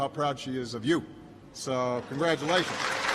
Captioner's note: applause